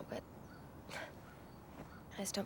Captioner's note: sighs